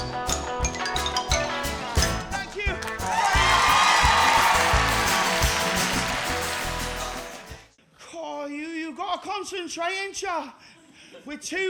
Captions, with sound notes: Thank you! (AUDIENCE CHEERS, APPLAUDS) Oh, you got to concentrate ain’t ya?